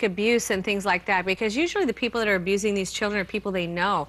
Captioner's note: none